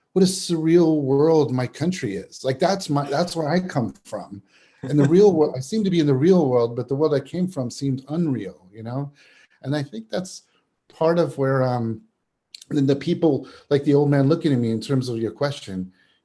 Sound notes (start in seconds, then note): 4.8 chuckles